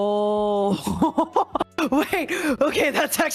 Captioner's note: scared laughter